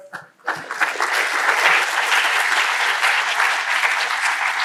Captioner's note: crowd applauding